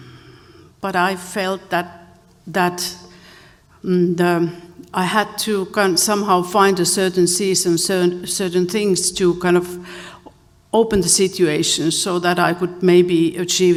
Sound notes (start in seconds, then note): none